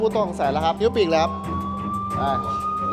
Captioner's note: siren wailing